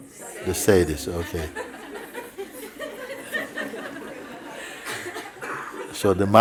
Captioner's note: laughter